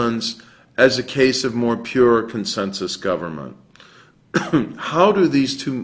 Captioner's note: cough